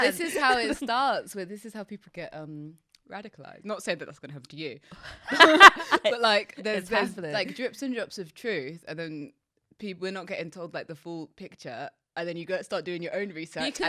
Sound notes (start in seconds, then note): 5.0 laughs